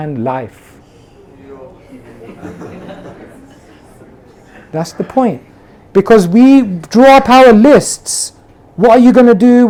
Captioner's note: laughter